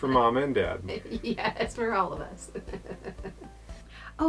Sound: laughing

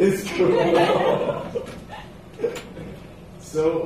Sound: laughter

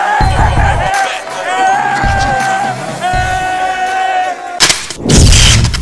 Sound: indistinct cheering

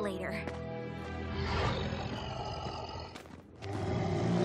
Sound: growling

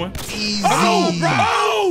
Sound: gunshot sound effect

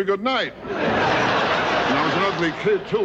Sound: audience laughing

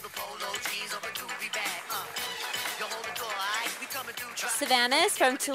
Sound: quiet applause from audience

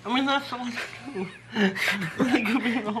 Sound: both laugh

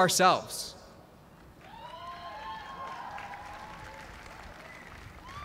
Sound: cheers and applause

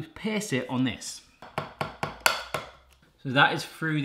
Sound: taps

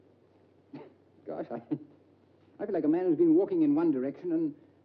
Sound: chuckles

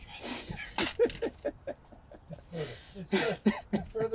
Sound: laughs

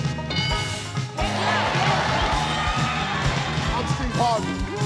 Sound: audience cheering

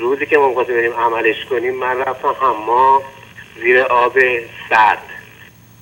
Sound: speaking in foreign language

